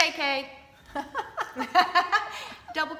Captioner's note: laughing